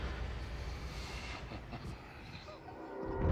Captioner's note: chuckling